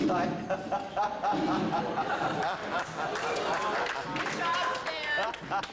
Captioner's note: laughs